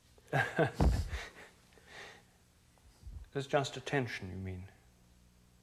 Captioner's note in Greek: Γέλια